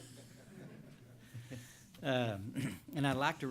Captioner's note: laughter